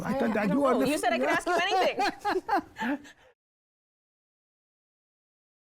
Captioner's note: both laugh